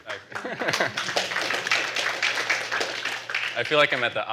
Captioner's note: applause